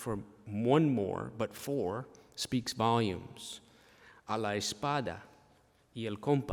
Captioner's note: speaking spanish